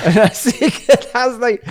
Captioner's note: laughs